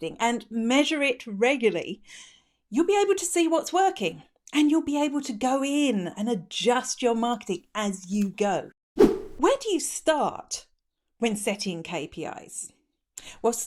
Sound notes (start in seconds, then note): 9.0 swooshing